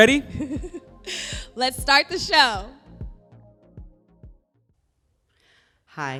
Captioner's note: laughs